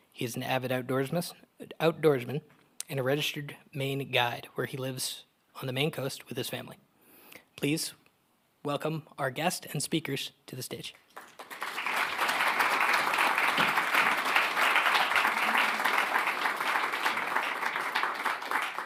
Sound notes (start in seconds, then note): 11.0 audience clapping